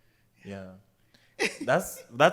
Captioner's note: laughs